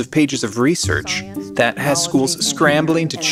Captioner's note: background talking